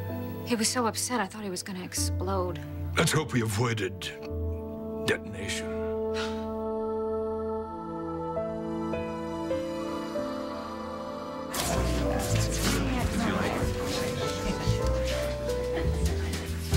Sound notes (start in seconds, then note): none